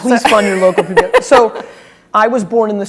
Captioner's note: speaking faintly